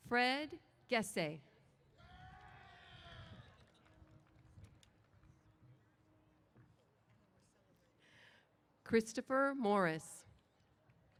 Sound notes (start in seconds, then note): 2.0 cheers